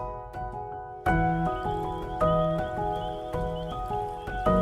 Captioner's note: frogs calling